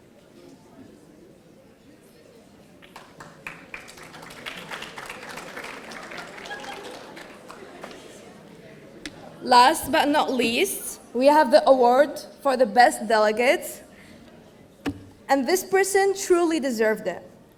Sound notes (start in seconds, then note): 2.8 audience applauding